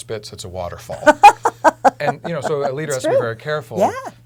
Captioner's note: laugh